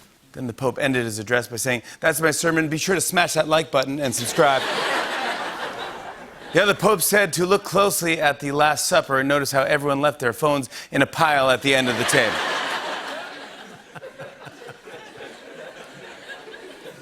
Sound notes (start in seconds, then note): 4.1 laughter; 15.0 laughter